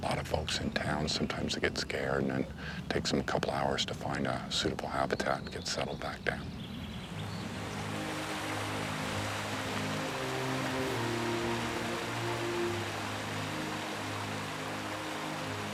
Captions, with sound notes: A lot of folks in town, sometimes they get scared, and then takes 'em a couple hours to find a suitable habitat and get settled back down. (stream flowing) (gentle music)